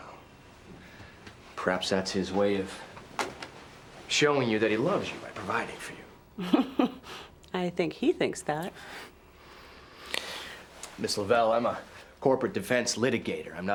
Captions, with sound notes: - Well, perhaps that's his way of showing you that he loves you, by providing for you? - (chuckles sarcastically) I think he thinks that. - Miss Lovell, I'm a corporate defense litigator.